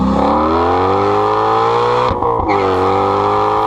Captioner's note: car engine